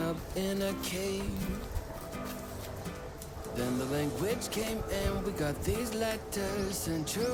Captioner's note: laughs